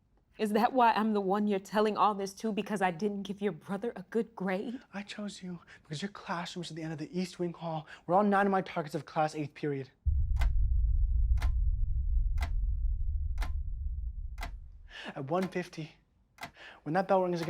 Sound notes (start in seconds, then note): 10.0 clock ticking; 10.0 brooding music